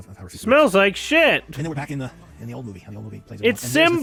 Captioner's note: mocking